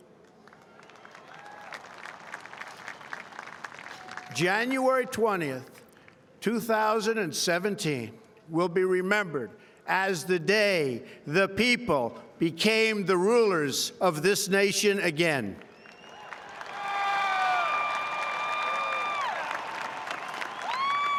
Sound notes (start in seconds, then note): 0.0 applause; 5.7 applause; 20.7 applause